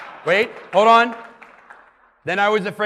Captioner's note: clapping and laughing